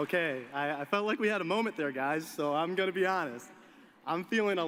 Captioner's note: applause